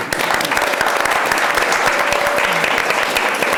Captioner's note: audience applauds